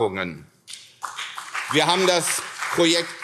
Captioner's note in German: Beifall CDU, SPD, BÜNDNIS 90/DIE GRÜNEN und Freie Demokraten